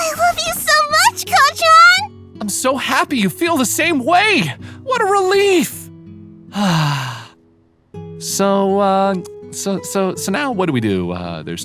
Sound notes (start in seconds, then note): 6.5 sighs; 8.8 stammering